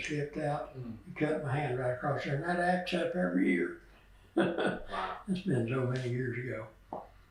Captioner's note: laughs